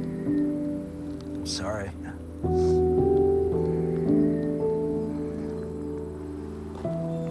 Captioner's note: sniffles